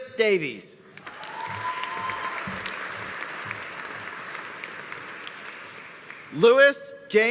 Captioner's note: audience applauding; audience cheering